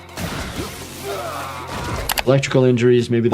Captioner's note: guns blasting; character grunting